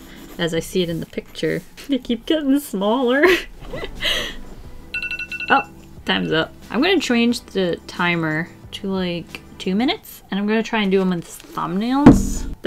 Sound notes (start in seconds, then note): 3.6 laughs; 4.8 timer sounds